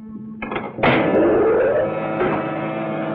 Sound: machine whirring

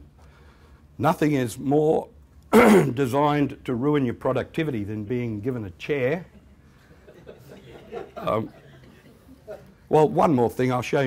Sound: laughter

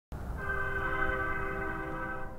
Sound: train whistle

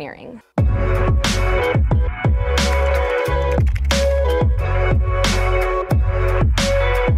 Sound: adventurous music; keyboard clicking

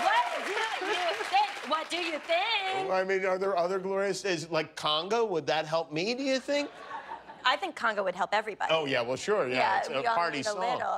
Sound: cheers and applause

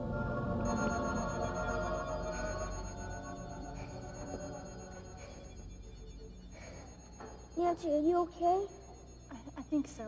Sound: droning alien noises

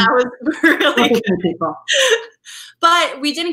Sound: laughing

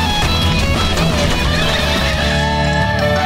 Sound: skidding

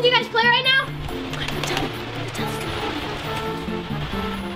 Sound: whispering

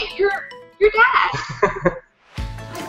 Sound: chuckles

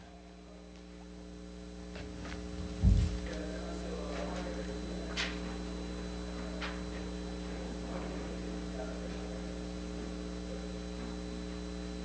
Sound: microphone buzzing

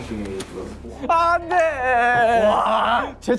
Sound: crying

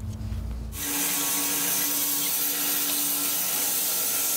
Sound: saw blade humming

